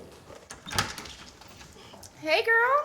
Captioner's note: footsteps; opening door